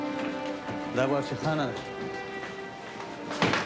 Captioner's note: speaks Pashto